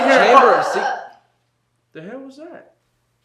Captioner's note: friend grunts